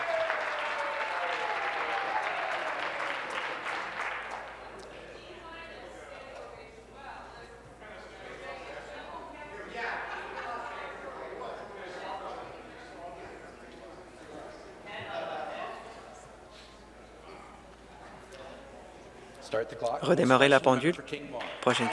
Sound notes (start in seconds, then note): 0.0 applause; 4.0 applause and cheering